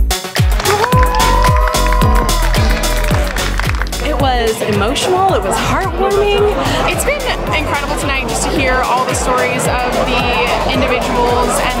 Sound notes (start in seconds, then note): 1.2 crowd cheers